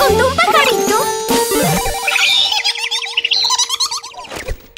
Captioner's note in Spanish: Sonido de pájaro